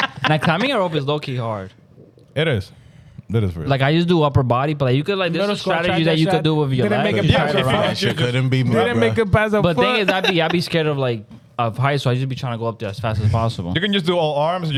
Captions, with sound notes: Now climbing rope is low key hard. It is. Like I used to do upper body, but you could like the strategies that you could do with your life. (Speaking In Foreign Language) But then I'd be scared of like, of heights. So I used to be trying to go up there as fast as possible. You can just do all arms.